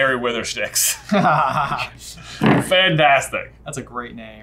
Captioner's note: laughing